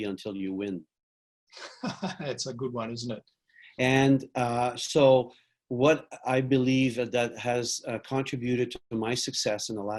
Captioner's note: laughs